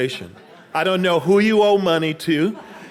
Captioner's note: audience laughing